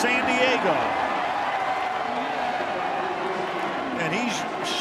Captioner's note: crowd cheering